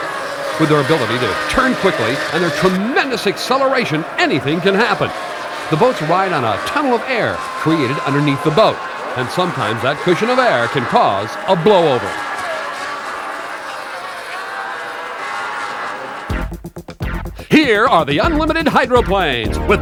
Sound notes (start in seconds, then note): 14.4 boat engines whine